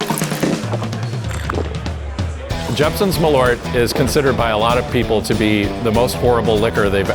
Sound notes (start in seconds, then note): 0.4 upbeat music; 3.1 voiceover